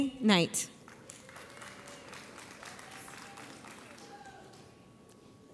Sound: audience applauds

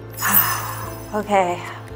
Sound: sigh

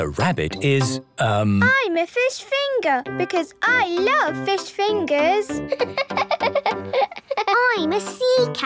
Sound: laughing

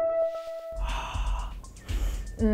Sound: light electronic beat; sniffs deeply; breathes forcefully

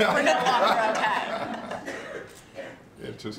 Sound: laughter

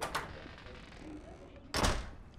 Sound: door opens; door closes

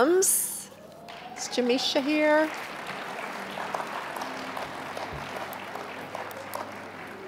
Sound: applause

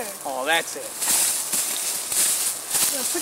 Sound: leaves rustling

